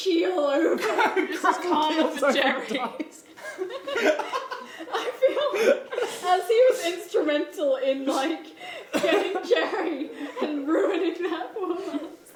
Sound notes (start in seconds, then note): 3.2 laughing